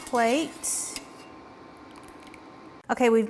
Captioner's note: spoon screeching; water dripping